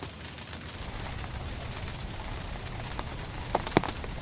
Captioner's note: rain hitting blind